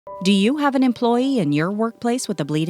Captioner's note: voiceover